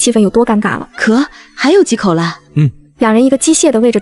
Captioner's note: ahem